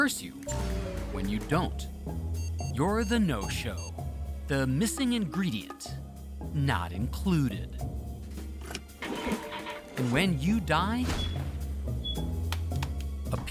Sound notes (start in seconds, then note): 9.8 engine sputters